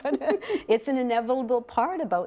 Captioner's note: laugh